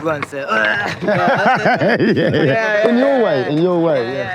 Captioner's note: laughing